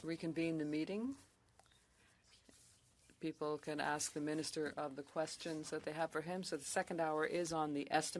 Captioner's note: speaking French